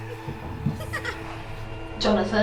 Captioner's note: child & deep laugh; child's laugh